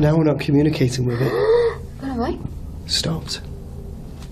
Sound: gasps

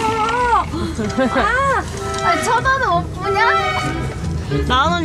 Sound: frustrated

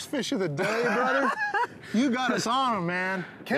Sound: laughing

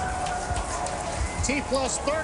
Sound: applause

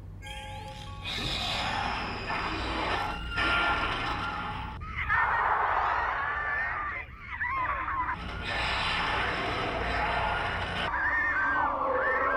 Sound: screaming

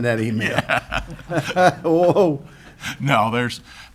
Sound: laughs

